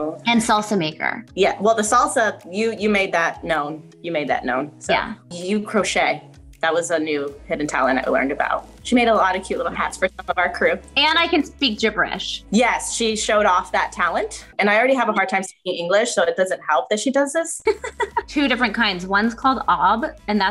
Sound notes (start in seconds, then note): 17.7 laughing